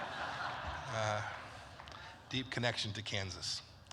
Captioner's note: laughter